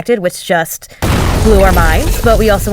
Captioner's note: explosion